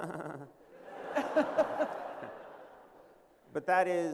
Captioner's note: laughter